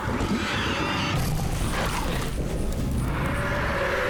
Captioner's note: growling; roaring